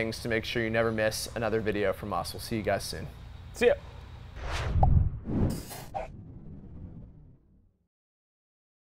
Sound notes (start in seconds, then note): 4.3 whooshing; 4.7 ball pops